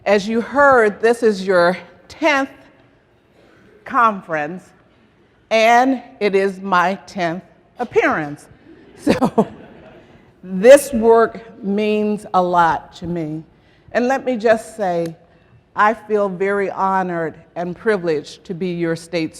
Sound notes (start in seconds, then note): 8.6 laughter